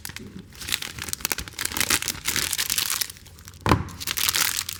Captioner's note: crumpling plastic